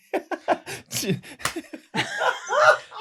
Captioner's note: laughter; marker clap; rioutous laughter